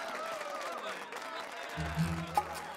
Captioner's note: cheers and applause